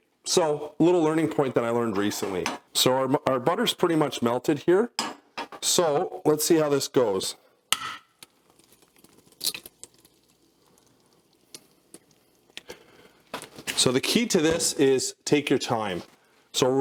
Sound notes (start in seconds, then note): 7.6 egg taps; 7.7 egg cracking